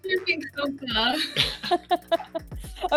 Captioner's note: group laughing